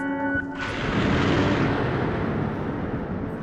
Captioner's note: eerie tune; crack of thunder; eerie tune